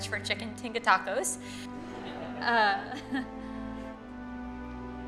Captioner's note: laughter